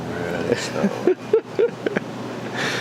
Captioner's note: laughing